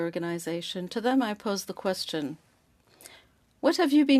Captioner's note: speaking French